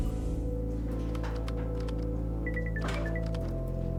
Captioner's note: phone ringing; keyboard typing